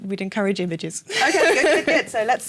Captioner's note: laughter